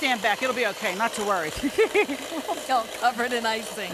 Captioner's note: laughing; laughs